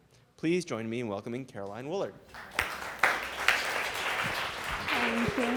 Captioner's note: audience applauding